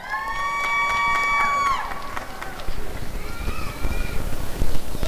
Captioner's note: applause and cheering